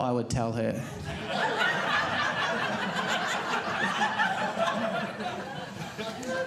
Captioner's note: audience laughing